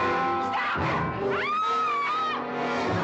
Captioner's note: screaming